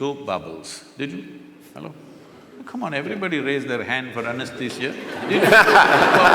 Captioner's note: laughter